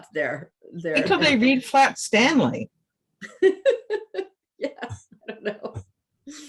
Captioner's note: laughs